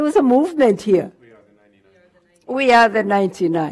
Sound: voiceover

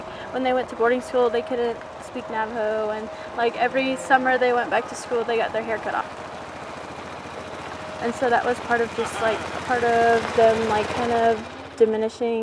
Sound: wind blowing

